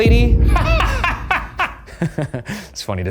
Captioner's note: laughing